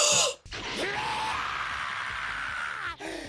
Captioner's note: Usopp screaming